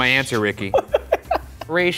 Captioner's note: laughs